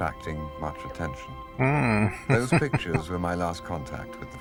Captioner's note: chuckling